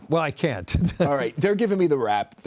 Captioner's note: laughter